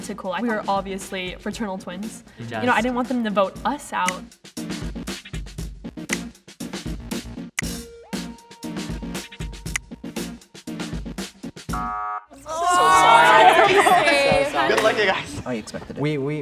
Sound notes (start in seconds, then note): 5.9 funky hip hop music; 11.6 negating buzzer; 12.4 crowd